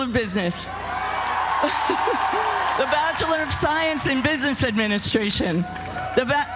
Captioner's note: laugh